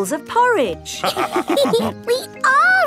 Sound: all laughing

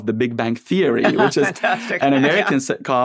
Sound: laughs

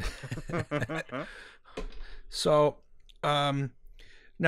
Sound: laughter

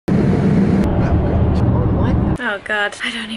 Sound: jet engine rumbling

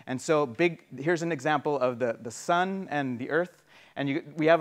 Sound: none

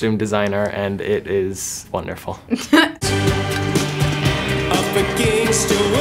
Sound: laughs

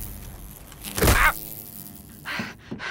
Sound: wasp buzzing; heavy thud; exhausted grunt

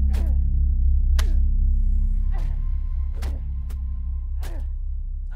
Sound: series of wet punches

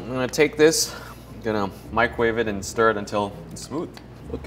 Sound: none

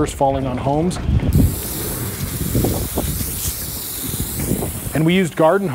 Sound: water spraying

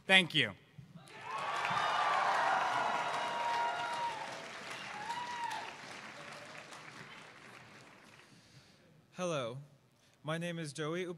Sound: cheers

